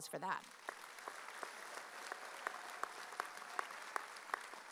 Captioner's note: audience applauding